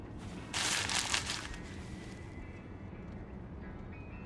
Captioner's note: bag rustles; soft slow bright music